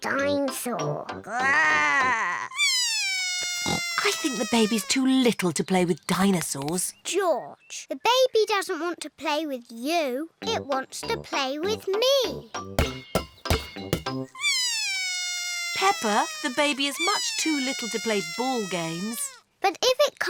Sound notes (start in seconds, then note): 2.4 bawls; 14.3 bawls